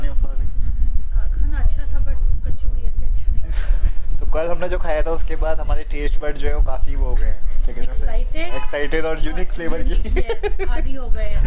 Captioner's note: laughs